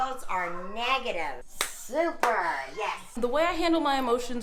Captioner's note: handclap